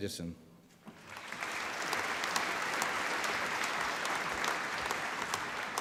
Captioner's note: applause